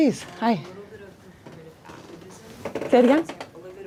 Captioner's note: speaks faintly